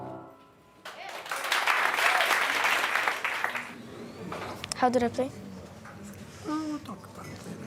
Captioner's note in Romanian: Aplauze